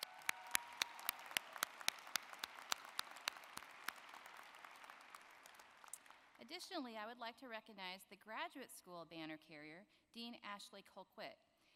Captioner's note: applause